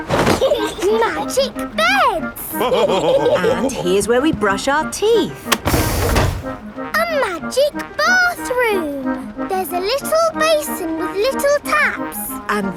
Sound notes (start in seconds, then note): 0.1 laughing; 2.4 all laughing